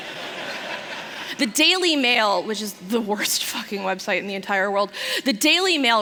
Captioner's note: laughter